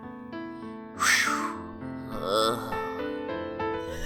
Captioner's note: groans